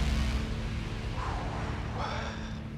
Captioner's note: exhales